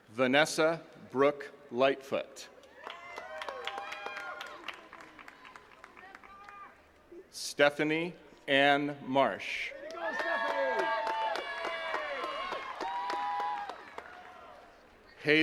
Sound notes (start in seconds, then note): 2.6 attendees cheering and clapping; 9.7 attendees cheers and claps